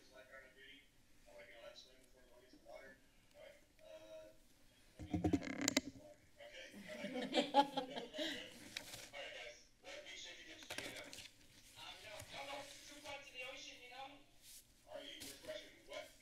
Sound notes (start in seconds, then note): 5.0 tapping; 6.8 chuckles